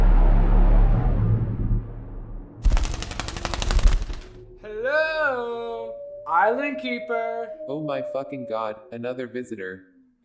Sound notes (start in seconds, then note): 2.6 wings flapping